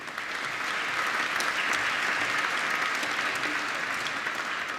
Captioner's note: applause